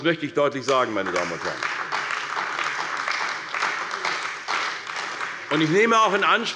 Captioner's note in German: Beifall bei der CDU